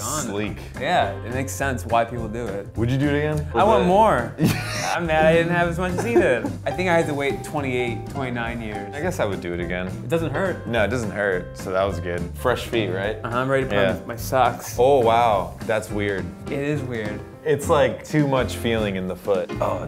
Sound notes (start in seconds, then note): 4.3 laughs